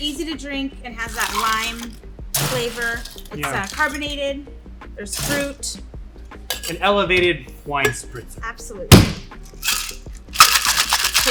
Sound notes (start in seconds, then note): 9.5 cocktail shaker shakes; 10.2 cocktail shaker bangs